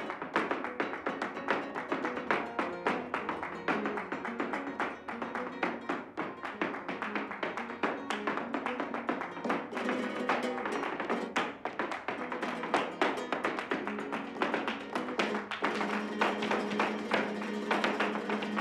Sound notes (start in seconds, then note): 2.3 foot tapping; 7.2 clapping, foot tapping; 12.9 guitar, foot tapping